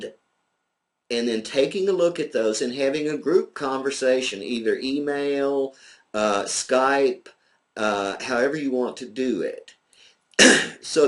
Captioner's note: coughs